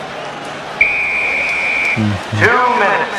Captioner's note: whistle blows